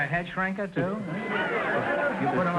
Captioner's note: audience laughter